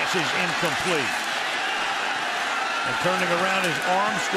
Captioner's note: screaming